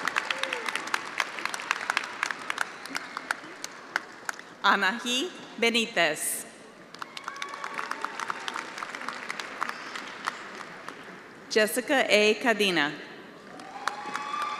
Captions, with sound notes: Shauna Grillo. (attendees applauding) Anahi Benitez. (attendees applauding)